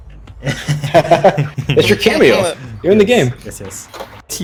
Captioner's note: chuckle